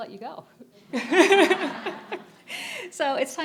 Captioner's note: laughing